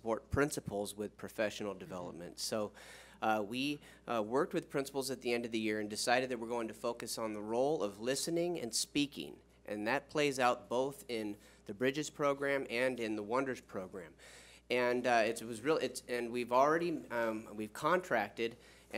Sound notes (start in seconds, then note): none